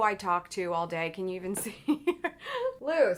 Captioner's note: laughs